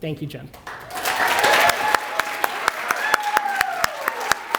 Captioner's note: applause